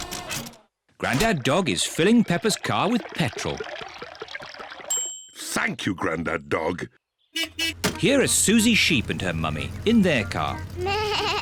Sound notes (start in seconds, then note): 4.9 bell dings; 7.3 horn beeps